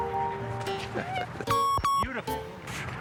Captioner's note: laughs